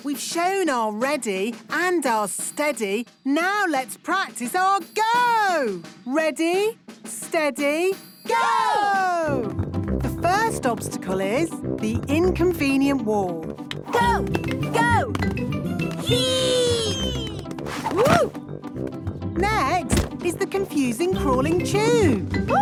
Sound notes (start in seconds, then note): 19.8 thumps